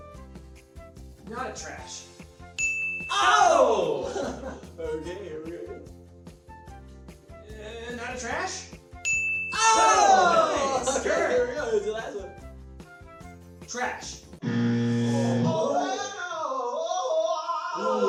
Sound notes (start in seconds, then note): 2.6 beep sound; 8.9 beep sound; 14.4 buzzing sound